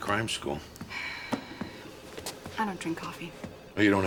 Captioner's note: sighs